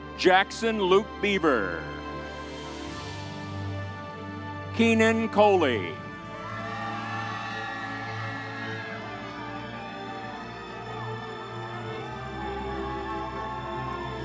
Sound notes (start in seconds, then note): 0.0 uplifting music continues; 2.3 uplifting music continues; 6.3 audience cheers; 6.4 uplifting music continues